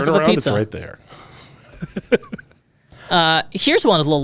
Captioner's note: laughs